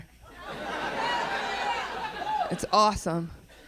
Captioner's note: audience cheering